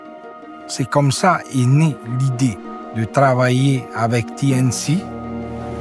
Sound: speaking foreign language

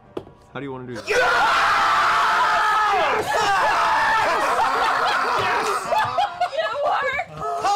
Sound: screaming and cheering

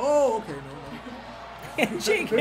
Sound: laugh

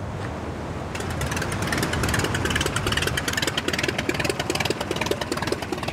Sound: airplane engine running

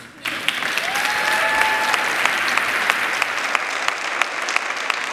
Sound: audience clapping and cheering

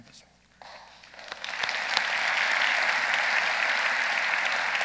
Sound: audience applauding

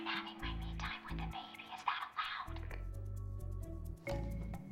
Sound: whispering

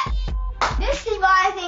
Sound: hands clap

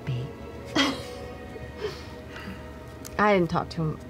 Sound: laughing

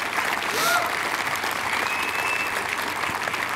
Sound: applause

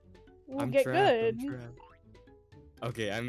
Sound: laughs

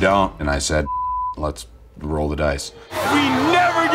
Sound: beeps

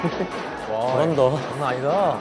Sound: joyful sound of their footsteps

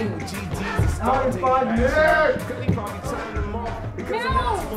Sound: voiceover

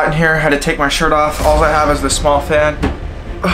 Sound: sighs

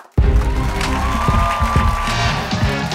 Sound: cheers and applause

